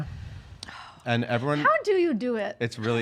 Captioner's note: sighs